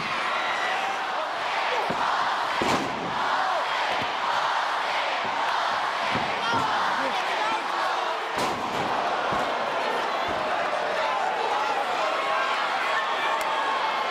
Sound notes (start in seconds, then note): 0.2 audience cheers; 1.9 audience chanting